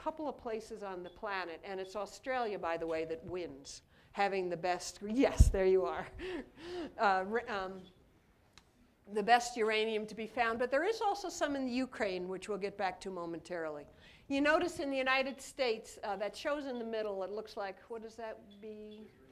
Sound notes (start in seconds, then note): 6.1 laughter